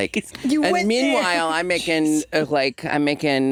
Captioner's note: chuckles